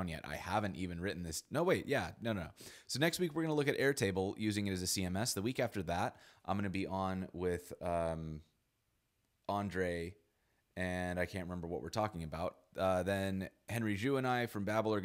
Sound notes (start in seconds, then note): none